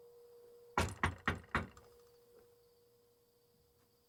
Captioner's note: knocking